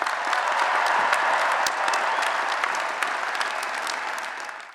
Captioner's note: applause and Cheering